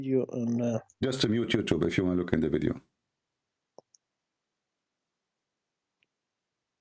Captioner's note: mute